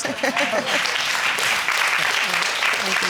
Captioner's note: crowd clapping